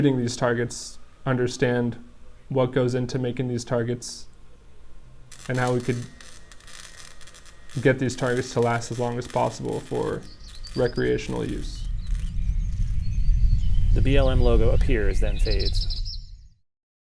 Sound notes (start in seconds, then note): 13.7 birds chirping